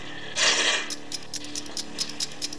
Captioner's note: winding; ticking